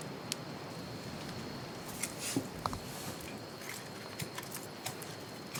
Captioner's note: crickets continue chirping